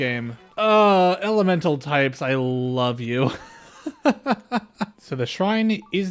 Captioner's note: laughter